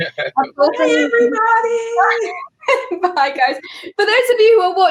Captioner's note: laughing